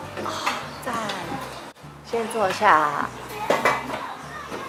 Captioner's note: speaking foreign language